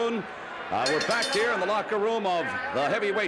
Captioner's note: bell rings